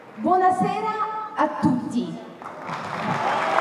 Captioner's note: in Italian